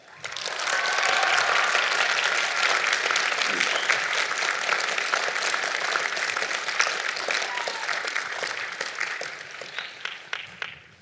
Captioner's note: applause